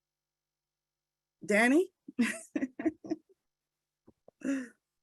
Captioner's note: laughs